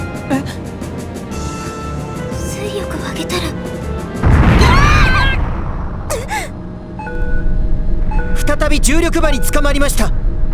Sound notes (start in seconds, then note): 4.6 panicked cries